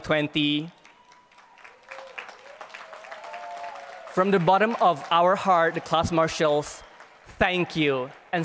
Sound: applause

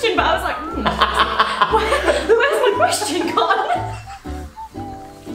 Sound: laughs

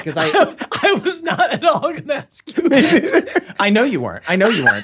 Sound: laughs

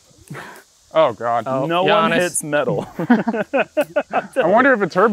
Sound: laughter

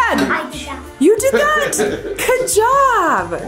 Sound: laughs

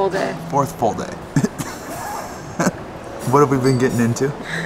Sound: laughs

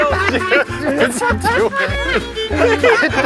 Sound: laughing

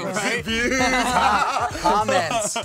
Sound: laughing

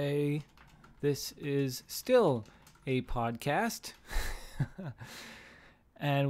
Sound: chuckles

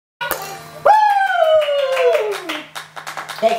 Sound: cheering

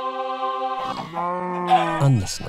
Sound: mob noises

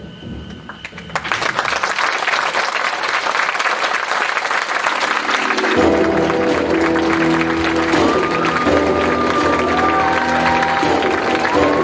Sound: audience applause, cheers

